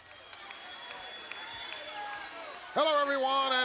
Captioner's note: crowd applauding